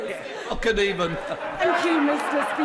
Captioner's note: laughter